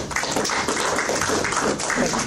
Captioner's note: audience clapping